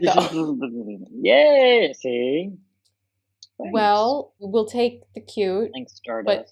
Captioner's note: keysmash noises